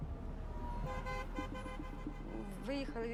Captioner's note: horns honking